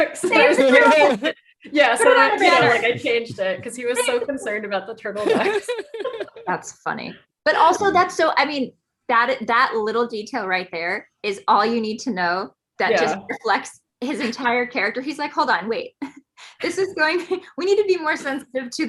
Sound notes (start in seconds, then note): 5.1 group laughing